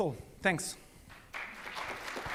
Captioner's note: audience claps